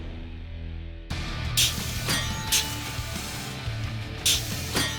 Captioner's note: clanging